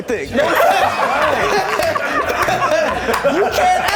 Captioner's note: all laughing